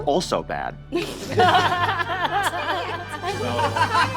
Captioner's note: all laughing